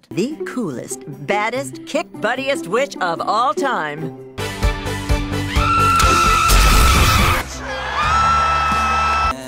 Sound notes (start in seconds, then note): 5.4 powerful scream; 7.6 excited screaming